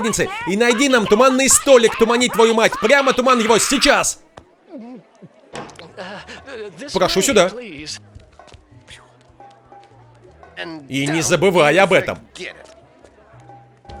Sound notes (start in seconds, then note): 4.0 <i>gulps</i>